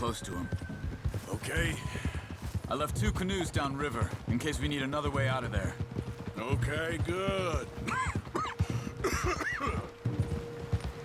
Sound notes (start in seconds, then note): 7.8 coughs